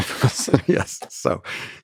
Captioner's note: Robin and Lex laugh